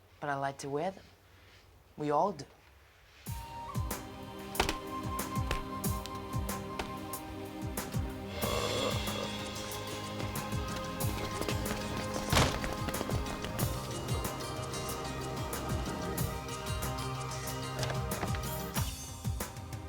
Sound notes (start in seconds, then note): 4.0 soft music; 8.2 groans